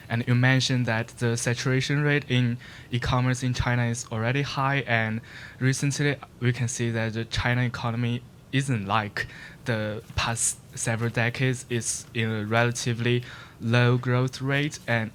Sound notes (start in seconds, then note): none